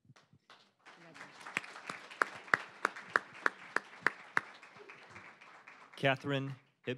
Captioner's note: applause